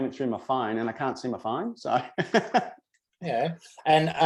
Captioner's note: laughs